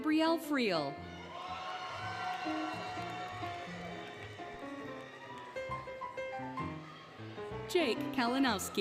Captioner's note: applause, Cheering, Music